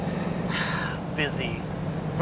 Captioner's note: sighs